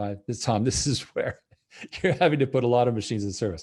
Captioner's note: chuckles